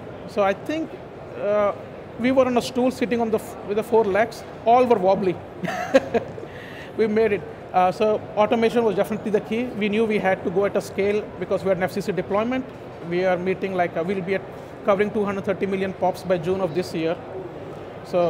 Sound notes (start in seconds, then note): 5.7 laughs